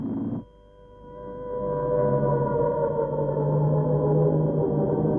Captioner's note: sirens wailing